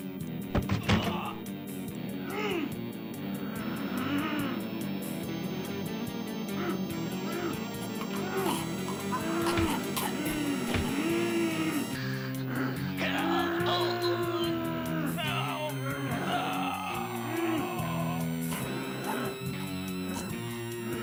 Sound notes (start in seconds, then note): 7.2 Dracula choking; 7.7 monster wailing; 18.8 coughs